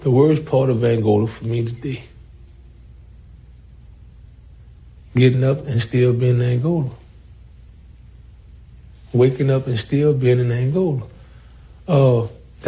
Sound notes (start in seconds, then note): none